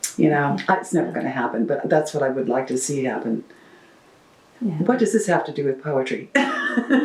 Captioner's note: laughs